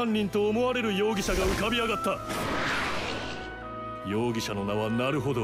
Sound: Prosecutor continues speaking in Japanese; air whooshing; Prosecutor continues speaking in Japanese

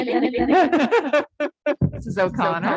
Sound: laughing

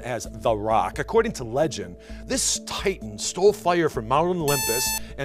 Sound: buzzer

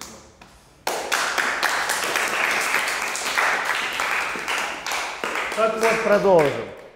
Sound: applause

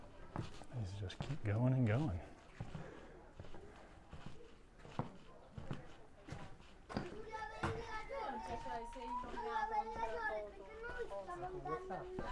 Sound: background chatter

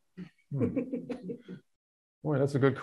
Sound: both chuckling

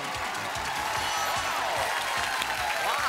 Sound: applause

